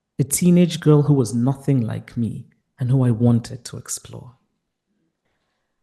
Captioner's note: none